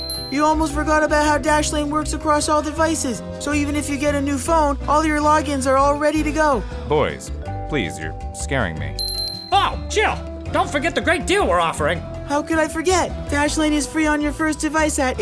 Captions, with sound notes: *bell ring* You almost forgot about how Dashlane works across all devices! So even if you get a new phone, all your logins are all ready to go. Boys, please, you’re scaring me. *bell ring* Oh, Chill! Don’t forget the great deal we’re offering! How could I forget! Dashlane is free on your first device at